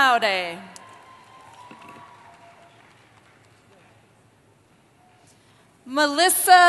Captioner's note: cheering